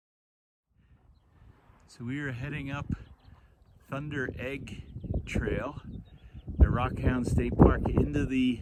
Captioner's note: birds chirping, wind noise